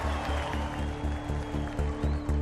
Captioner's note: applause